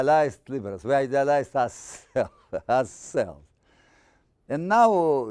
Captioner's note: laughing